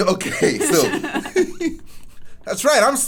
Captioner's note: laughs